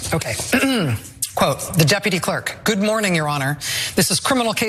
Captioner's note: cough